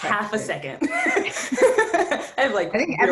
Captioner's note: laughs